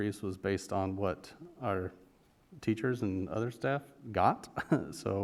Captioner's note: chuckle